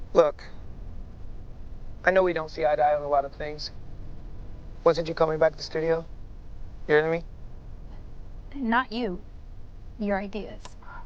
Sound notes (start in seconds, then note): none